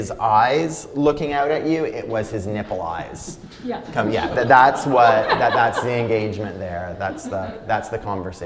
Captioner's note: laughter